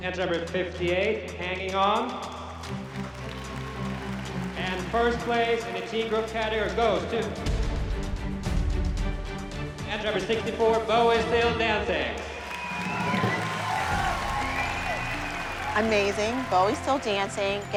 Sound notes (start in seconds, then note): 12.0 cheering, applause